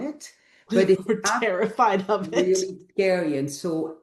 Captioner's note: laughs